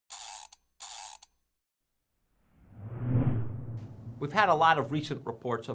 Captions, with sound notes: [GEAR WINDING] We've had a lot of recent reports